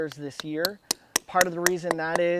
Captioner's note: tools tapping